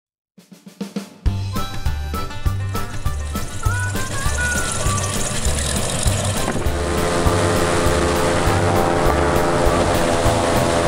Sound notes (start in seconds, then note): 0.8 lively music; 2.6 motor running